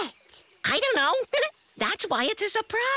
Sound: giggles

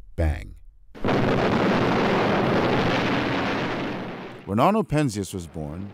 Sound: explosion

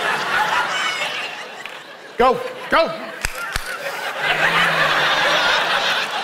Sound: clapping

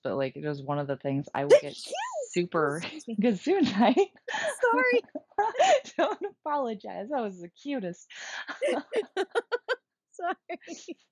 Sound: sneezes

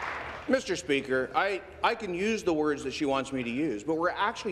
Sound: applause

